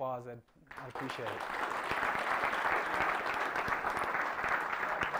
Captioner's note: applause